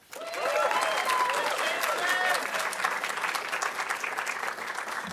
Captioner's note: audience applauding